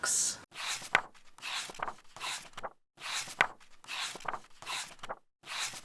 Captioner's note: pages turning